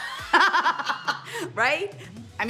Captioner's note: laughing